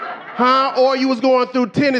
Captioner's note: audience laughing